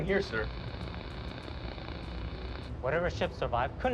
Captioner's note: static